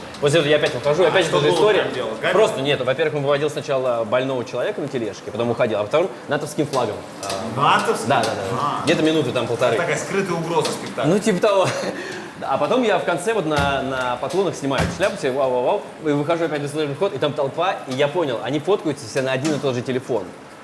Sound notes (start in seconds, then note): 11.5 chuckles